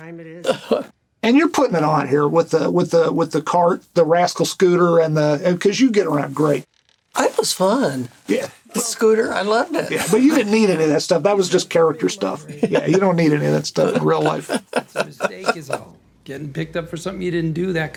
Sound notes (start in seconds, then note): 14.8 Burnett laughing